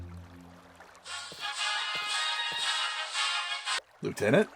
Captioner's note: ringtone